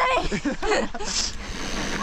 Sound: laughing

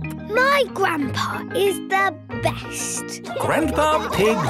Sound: laughing

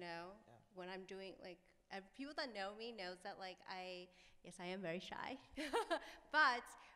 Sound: laughs

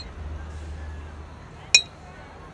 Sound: exhales

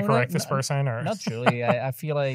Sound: laughing

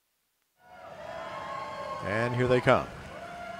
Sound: cheers

